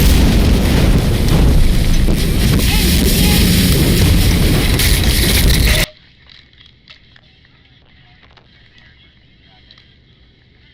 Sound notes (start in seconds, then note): 2.3 muffled shouting